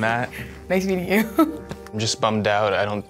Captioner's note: laughs